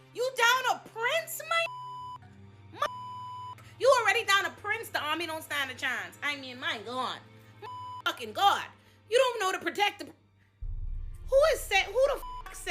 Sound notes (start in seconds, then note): 1.6 beep; 7.6 beep; 11.9 beep